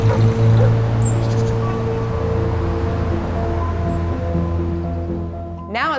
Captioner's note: truck passing, dog barking; bird chirping, street noise